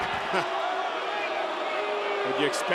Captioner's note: crowd cheering; crowd booing